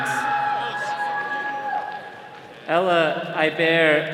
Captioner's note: attendees cheering